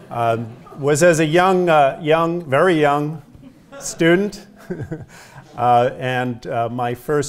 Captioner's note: laugh